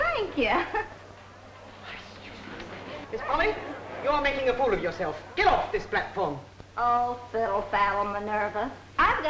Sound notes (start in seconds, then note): 2.1 group chattering